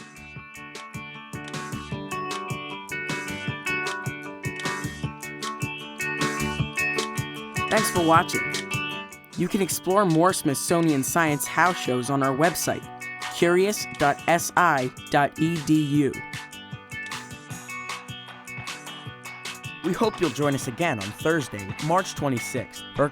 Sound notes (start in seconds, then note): 0.2 upbeat music; 7.6 voiceover